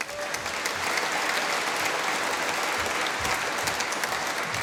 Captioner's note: applause